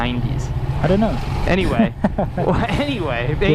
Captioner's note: chuckles